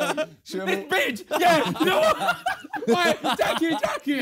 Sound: laughing

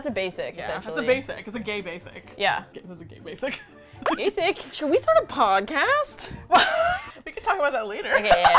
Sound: chuckling; laughs

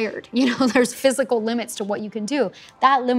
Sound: chuckles

